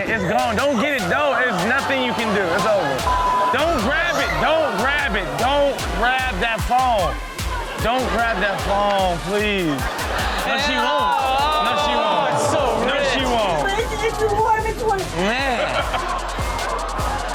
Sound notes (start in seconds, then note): 3.0 beep; 3.1 audience reacts; 9.8 audience laughs; 13.1 audience laughs; 15.1 co-host laughs